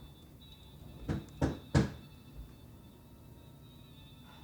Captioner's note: door knocking